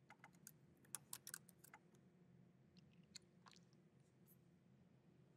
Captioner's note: keyboard clacking